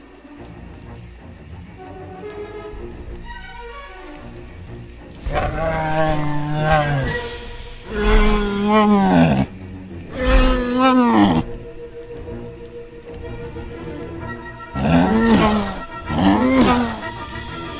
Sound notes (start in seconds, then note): 5.9 ankylosaurus Sounds